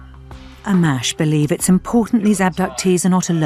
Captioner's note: voiceover